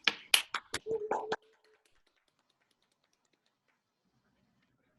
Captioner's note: attendees applauding